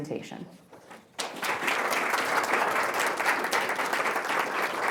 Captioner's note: audience applauding